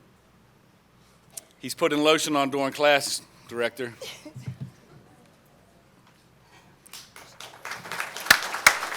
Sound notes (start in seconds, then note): 4.5 laughter; 6.9 applause